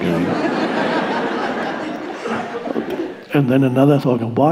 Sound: audience laughing

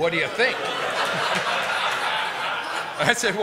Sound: laughter

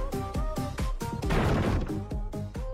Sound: door Kicking x2

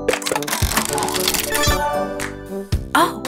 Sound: turning sound

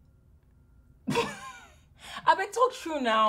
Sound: Efosa chuckles

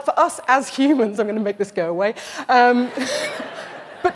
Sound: laughter

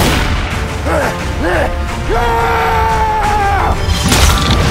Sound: battle cry

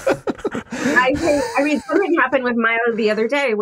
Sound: laughs

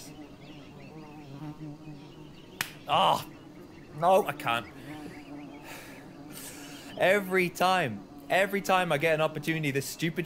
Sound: more hitting sounds

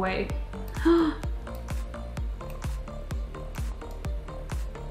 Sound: gasps

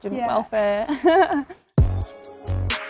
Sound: chuckles; heavy bass music

